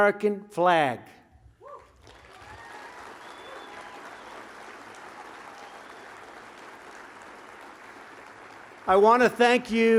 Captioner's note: applause